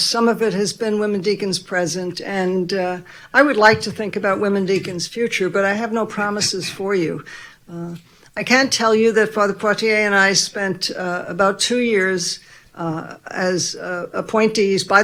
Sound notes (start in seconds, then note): none